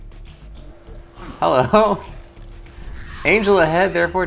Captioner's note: laughs